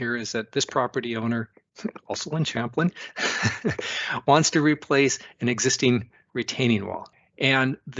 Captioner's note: laughs